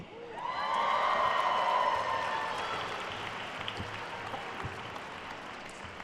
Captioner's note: attendees cheering and applauding